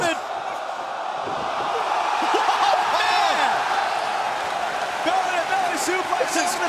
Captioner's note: crowd cheering